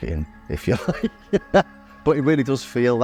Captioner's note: laughs